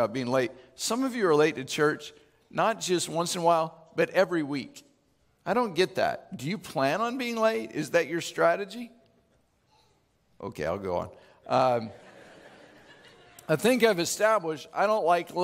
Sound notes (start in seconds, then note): 11.9 laughing